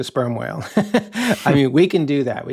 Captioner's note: laughing